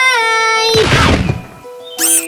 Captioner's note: hits the floor